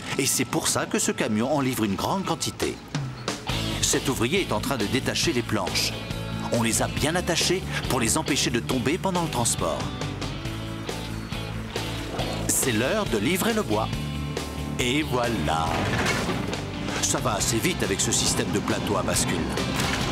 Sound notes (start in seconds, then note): 16.0 thud!